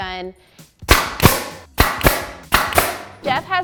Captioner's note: nail gun fires